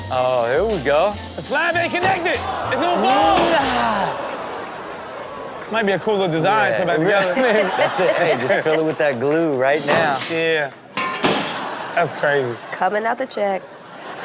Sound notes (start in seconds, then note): 3.0 slab shattering; 3.5 Rob exclaiming; 11.0 slab shattering